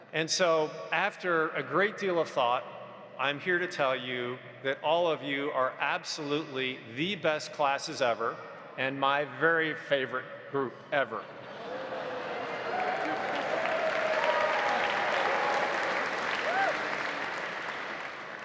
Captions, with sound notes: And so after a great deal of thought I'm here to tell you that all of you are absolutely the best classes ever and my very favorite group ever. (audience applauding) (audience cheering)